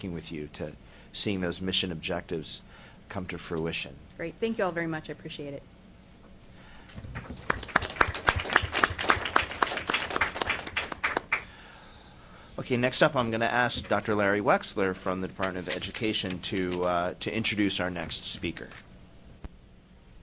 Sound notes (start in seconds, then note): 7.0 applause